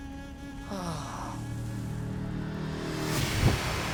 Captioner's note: sighing